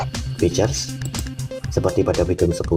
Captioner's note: click